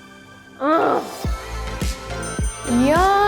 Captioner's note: sigh in satisfaction; sighs in satisfaction; bell dings